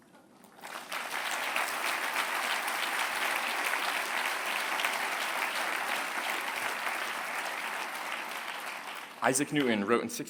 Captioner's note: applause